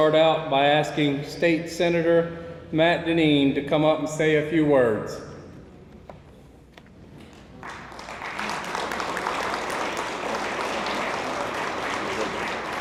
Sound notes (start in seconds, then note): 7.4 attendees applauding